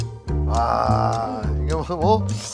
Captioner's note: slurp